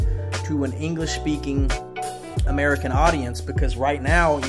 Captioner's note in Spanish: habla inglesa